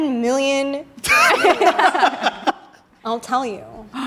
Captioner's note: everyone laughs